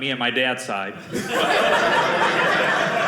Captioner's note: audience laughing